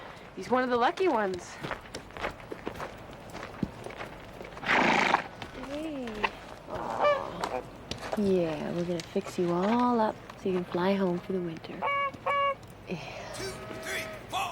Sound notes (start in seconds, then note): 4.6 horse snorts; 11.7 goose calls